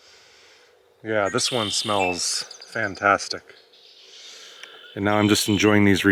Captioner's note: inhales; inhales